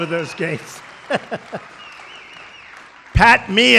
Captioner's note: laughter